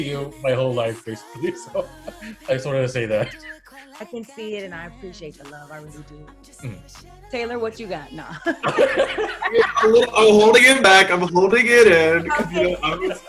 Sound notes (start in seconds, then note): 8.2 both loudly laughing